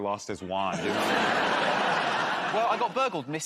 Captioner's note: laughter